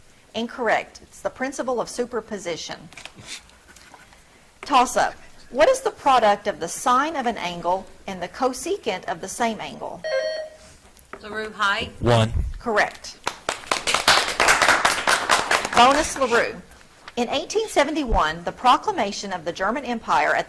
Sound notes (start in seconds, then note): 10.0 buzzer trills; 13.2 audience clapping